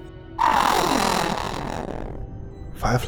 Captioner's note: Disgruntled Bahro noise